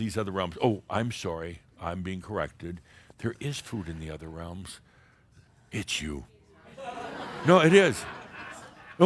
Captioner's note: some laughter